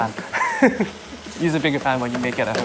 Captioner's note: laughs